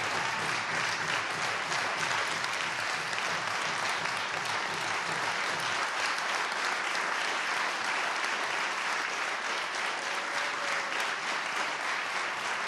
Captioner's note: applause